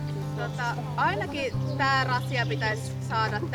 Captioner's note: speaking Finnish